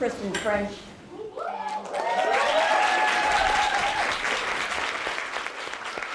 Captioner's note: applause